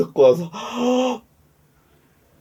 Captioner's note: sigh